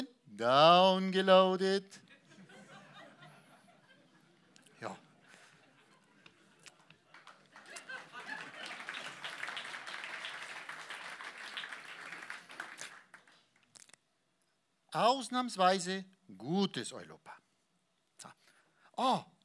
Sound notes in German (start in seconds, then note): 2.6 Applaus